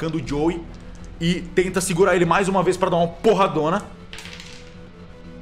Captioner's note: dice sounds